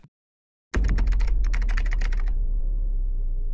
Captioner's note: typing